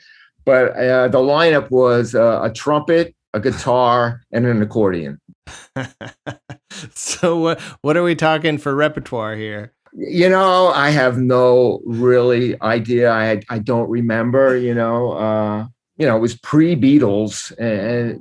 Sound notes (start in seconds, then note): 5.5 laughter